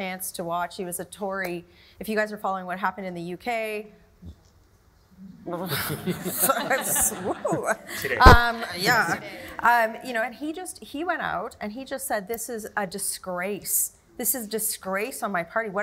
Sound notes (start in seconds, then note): 5.5 stammering